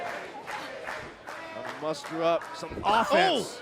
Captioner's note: fans chanting